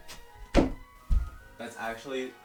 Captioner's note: thud